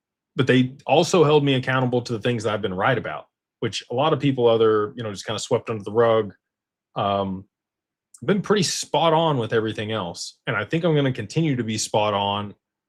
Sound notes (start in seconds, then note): none